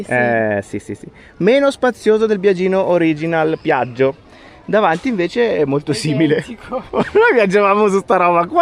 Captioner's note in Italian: risate